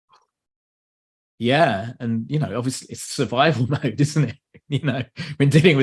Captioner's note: laughs